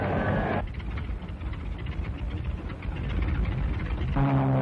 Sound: plane rumbling

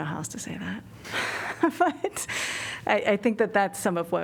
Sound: laughter

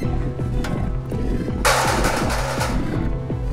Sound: chair clatters

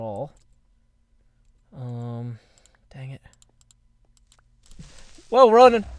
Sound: hisssss

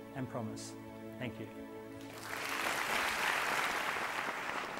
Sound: applause

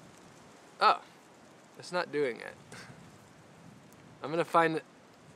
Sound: laughs

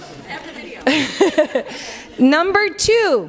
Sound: laughs

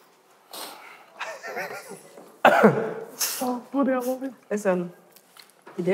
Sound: laughing

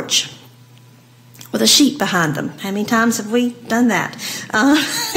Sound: laugh

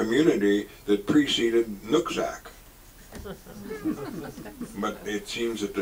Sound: audience laughs

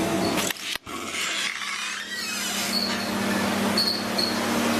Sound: door opens

